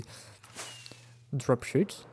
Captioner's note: whiiz